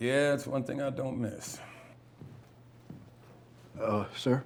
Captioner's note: footsteps